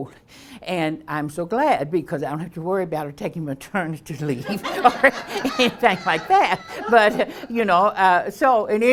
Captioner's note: audience laughs